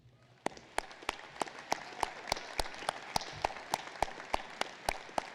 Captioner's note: applause